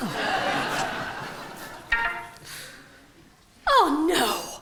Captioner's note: a 'de-friend' bleep comes from Marjorie's phone